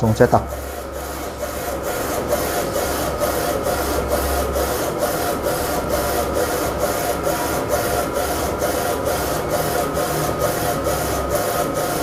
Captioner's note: printer machine noise